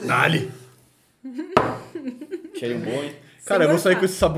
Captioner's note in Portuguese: risos